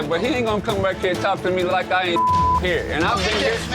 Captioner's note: beep